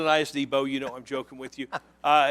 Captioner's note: laughter